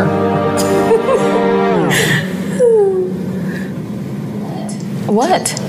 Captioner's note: woman giggling